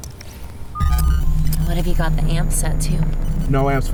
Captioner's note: electronic thrumming